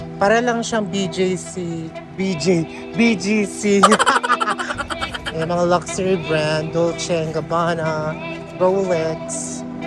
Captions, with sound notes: It's just like BJC BJ BGC [Laughing] [Laughing SFX] There, we have luxury brands Dolce and Gabbana, Rolex,